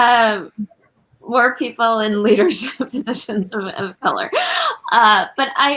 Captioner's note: laughs